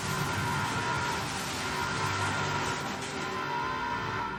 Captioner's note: explosion and clatter